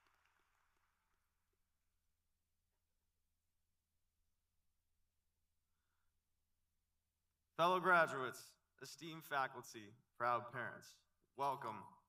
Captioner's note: applause